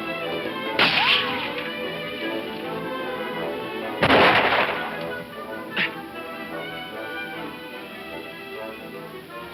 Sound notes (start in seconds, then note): 5.7 grunting